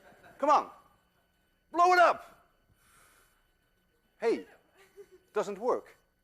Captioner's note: class laughs